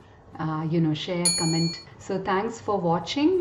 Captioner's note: bell dings